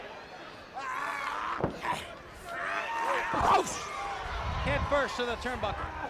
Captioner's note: crowd chatter